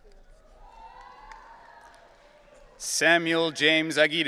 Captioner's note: audience cheering